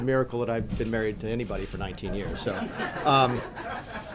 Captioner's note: laughter